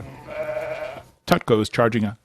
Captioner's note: sheep bleating